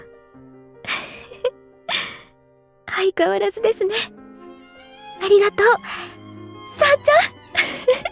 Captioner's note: chuckle